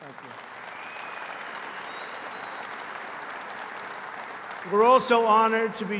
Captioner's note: applause